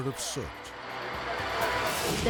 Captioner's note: firefighters chattering